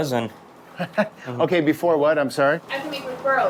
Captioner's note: chuckles